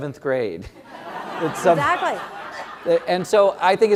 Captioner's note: laugh